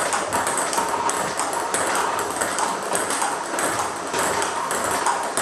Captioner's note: ball ping pong hitting continues